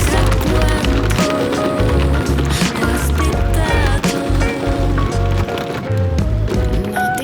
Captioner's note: haha